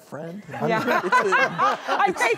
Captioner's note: laughing